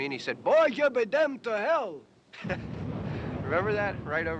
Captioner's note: chuckles